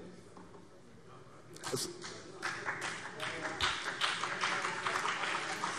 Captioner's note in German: Beifall BÜNDNIS 90/DIE GRÜNEN